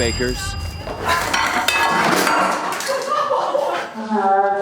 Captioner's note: objects clatter